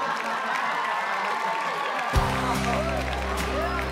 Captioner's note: audience laughing; audience applauding; upbeat pop music